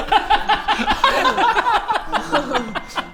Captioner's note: crazed laughter